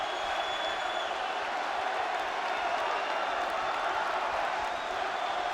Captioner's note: audience cheering